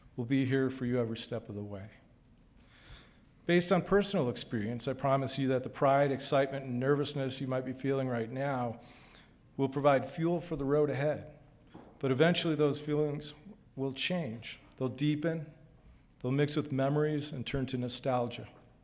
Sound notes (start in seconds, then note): none